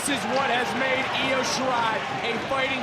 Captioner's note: audience cheering